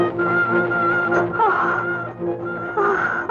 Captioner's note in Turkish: Kadın inleme sesi, ahh